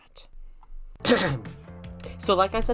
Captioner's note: clears throat